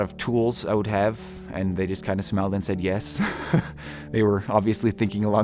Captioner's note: laughter